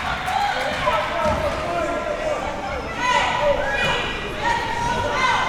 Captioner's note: crowd yelling